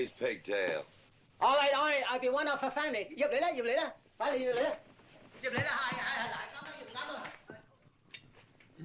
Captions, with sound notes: Cut off his pigtail. All right, all right, I'll be one of the family. (SPEAKING CHINESE)